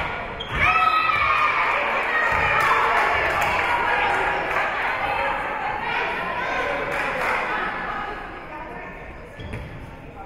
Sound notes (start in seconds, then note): 0.4 whistle being blown; 0.6 spectators cheering; 2.4 spectators cheering and applauding